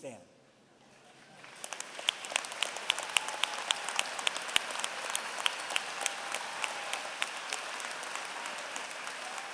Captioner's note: applause